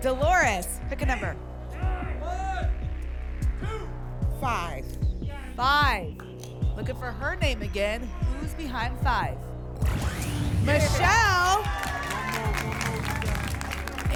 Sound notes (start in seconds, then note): 1.6 audience shouting numbers